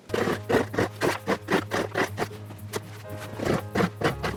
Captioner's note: digging sound